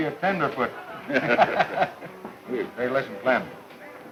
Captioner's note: laughing